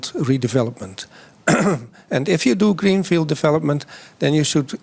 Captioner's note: coughs